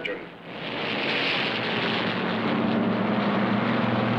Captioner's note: engines rumbling